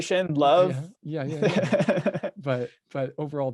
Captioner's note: laughing